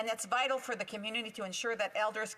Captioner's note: speaking indigenous language